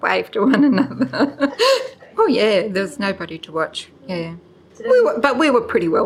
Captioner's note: laughs